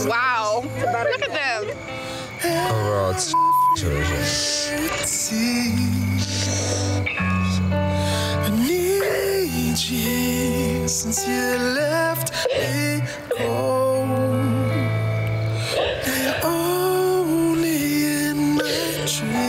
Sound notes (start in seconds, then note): 5.1 crying